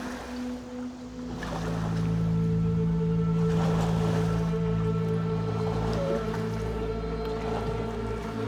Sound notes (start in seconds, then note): 0.0 waves lapping